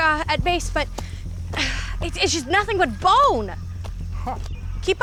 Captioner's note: sighs